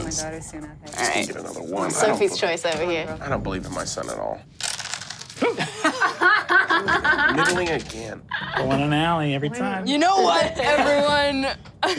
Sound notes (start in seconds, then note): 5.5 audience laughs